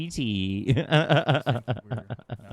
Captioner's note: laughs